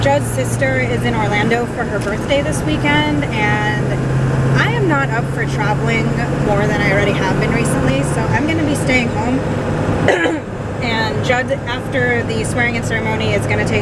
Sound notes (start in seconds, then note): 10.0 coughs